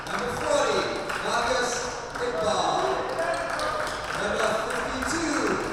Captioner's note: team cheering and clapping